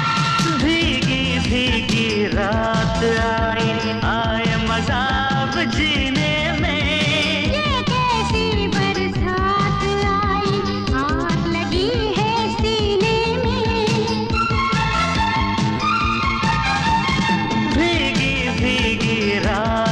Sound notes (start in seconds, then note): none